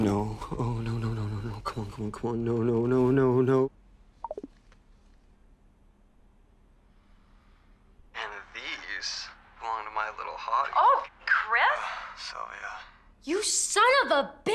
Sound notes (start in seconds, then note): 4.2 cell phone popping